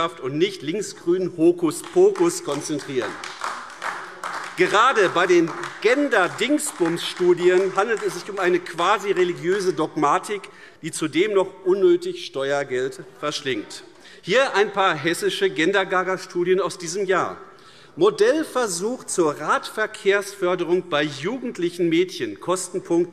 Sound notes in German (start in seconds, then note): 3.1 Beifall AfD